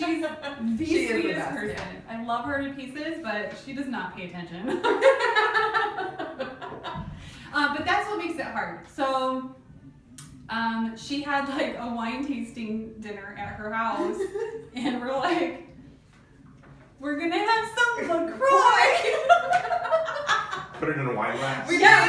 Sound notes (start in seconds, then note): 4.8 laughing; 18.8 laughing